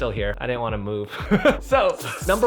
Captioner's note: laughing